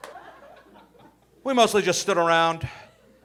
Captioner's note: audience laughing